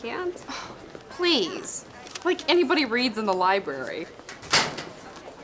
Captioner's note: sighs